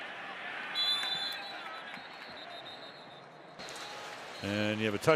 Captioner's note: whistle blows